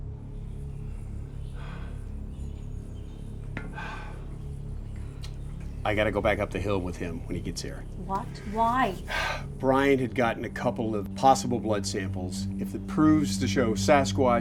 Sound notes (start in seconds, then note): 1.7 birds singing; 1.7 tense music